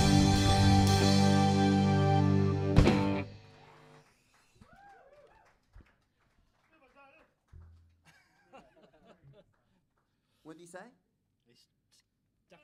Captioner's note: applause